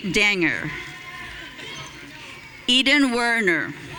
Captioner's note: audience cheering